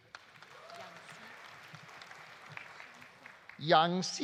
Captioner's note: audience applauding; audience cheering